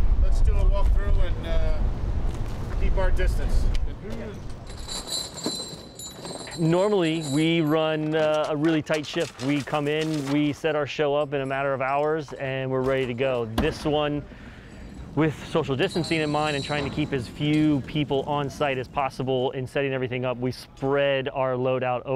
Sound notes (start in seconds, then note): 4.1 chains clinking